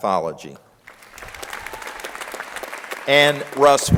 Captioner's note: crowd applauding